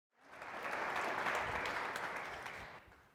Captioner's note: applause